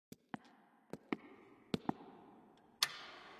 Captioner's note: footsteps tap; switch clicks